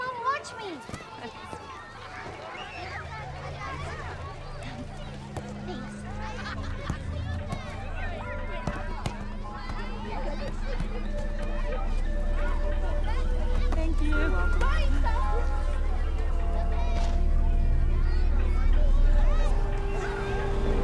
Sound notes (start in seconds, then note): 2.7 children chattering; 2.7 gentle ominous music; 6.9 children chattering; 6.9 football thudding; 15.6 children chattering; 15.6 foreboding music